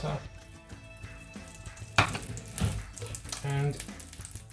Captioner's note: butter sizzling